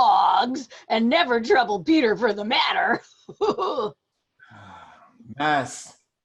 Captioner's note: laughs